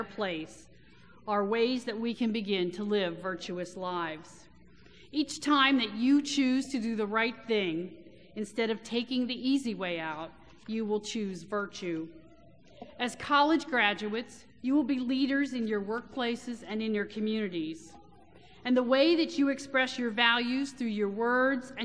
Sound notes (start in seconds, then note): none